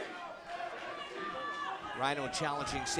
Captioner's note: fans chanting